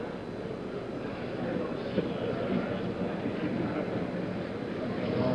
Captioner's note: audience murmuring